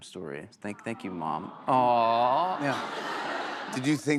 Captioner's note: audience awws